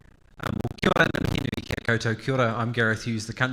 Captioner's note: speaking faintly